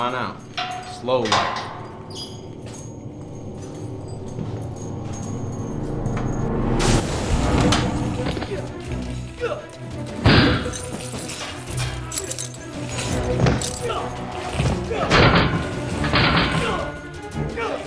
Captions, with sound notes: Come on out, slowly. (grunting) (dramatic music)